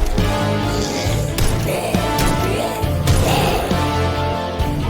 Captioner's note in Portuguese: monstro rugindo